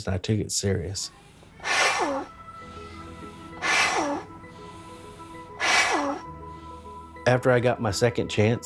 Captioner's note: blows into hot water bottle; inspiring music begins